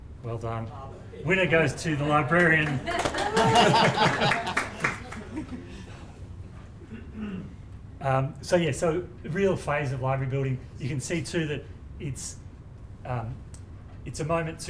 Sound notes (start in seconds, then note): 6.1 laughter and applause